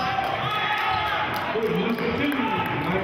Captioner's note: cheering